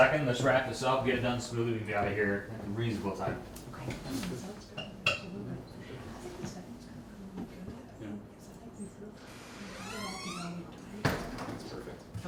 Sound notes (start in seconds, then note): 4.3 gente hablando en voz baja; 9.4 crujido de la puerta